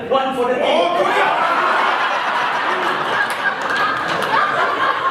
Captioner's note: animals cheer